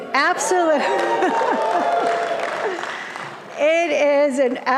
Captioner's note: audience applauding and cheering